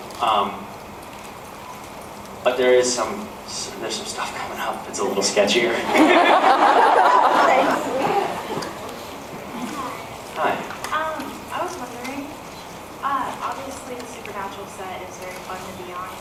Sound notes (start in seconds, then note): 5.0 laughing; 5.0 laughs